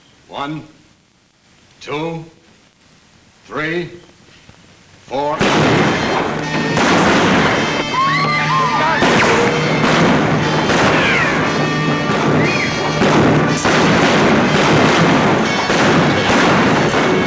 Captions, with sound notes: One, two, three, four. (gun bangs) (guns bang) (women scream) (guns bang)